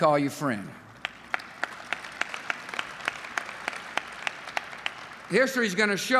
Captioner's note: applause